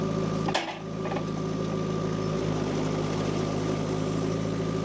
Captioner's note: tractor rumbling continues